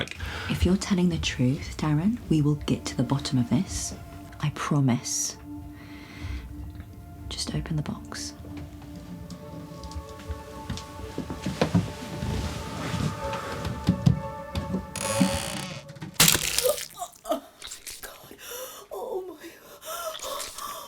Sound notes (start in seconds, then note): 8.3 Esther gasps